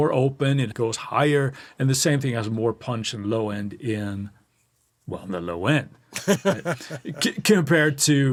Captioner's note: laughs